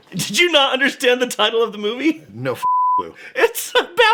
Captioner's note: beeping